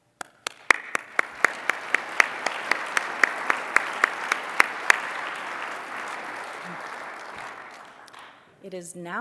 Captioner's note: applause